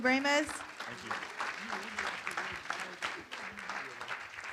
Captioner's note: room applauds